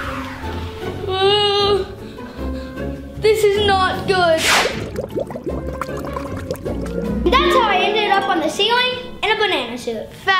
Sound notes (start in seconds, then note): 4.5 drink bubbles